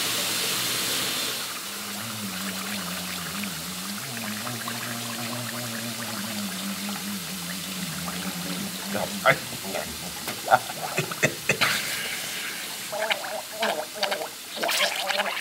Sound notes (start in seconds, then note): 1.9 bubbling sound; 13.7 bubbling sound